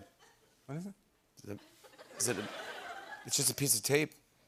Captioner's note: laughter